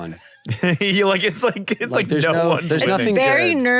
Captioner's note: laughs